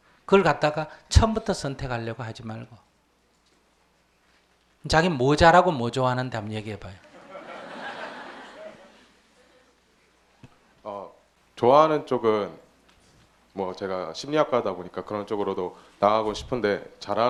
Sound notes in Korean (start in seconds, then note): 7.0 청중 웃음